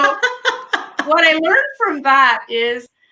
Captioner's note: laughing